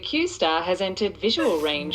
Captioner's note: Aurelia cries